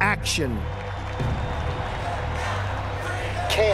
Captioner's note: crowd cheers and applauds